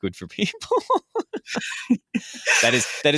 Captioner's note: laughing